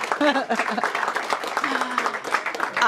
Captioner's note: applause